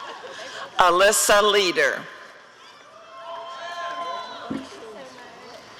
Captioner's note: audience cheering